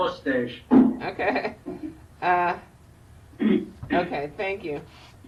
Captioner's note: laughs